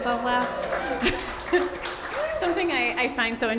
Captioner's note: audience cheers